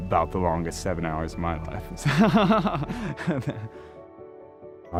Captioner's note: laughs